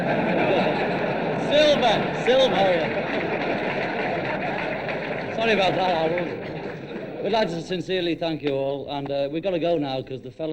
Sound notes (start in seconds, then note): 3.3 audience laughing; 5.7 audience clapping